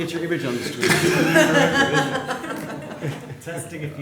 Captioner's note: laughter